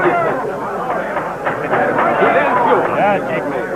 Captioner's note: gavel pounding loudly